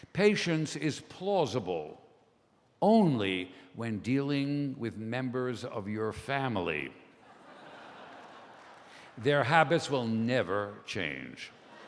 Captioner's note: laughter